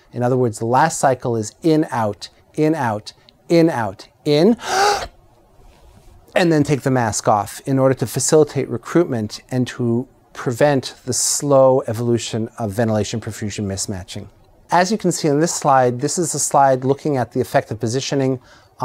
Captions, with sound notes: In other words, the last cycle is in out, in out, in out in-- [INHALES SHARPLY] and then take the mask off in order to facilitate recruitment and to prevent the slow evolution of ventilation perfusion mismatching. As you can see on this slide, this is a slide looking at the effect of positioning